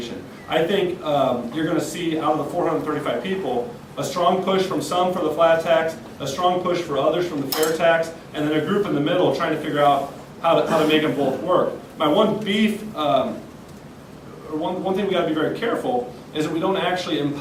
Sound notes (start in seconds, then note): none